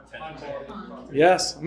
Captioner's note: audience chatter